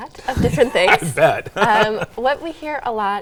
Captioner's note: laughs